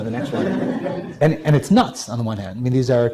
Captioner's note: laughing